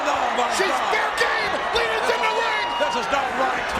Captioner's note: overlapping chatter